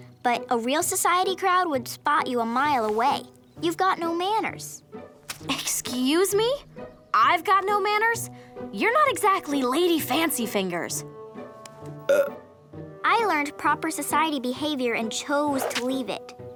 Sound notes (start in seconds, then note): 12.0 burping